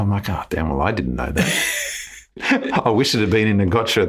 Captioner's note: laughs